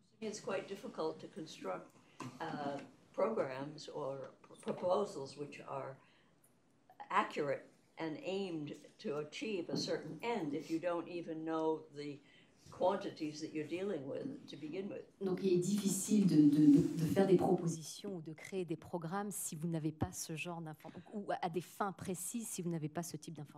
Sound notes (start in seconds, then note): 15.2 speaking french